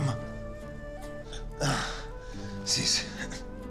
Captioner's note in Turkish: İnleme sesi